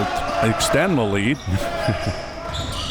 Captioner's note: chuckles